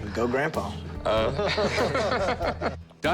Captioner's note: laughter